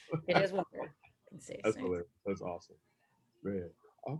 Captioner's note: laughs